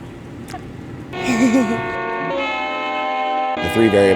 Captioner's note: laughs